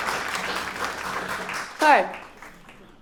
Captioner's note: applause